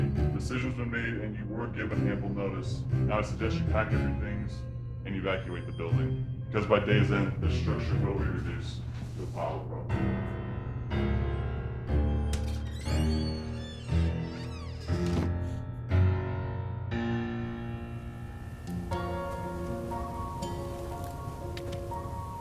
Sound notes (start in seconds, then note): 9.8 dramatic music; 11.8 door squeaking; 19.7 gentle music